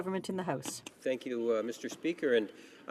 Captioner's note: speaking french